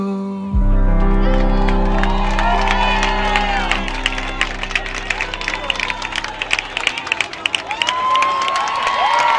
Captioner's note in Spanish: público aclamando y aplaudiendo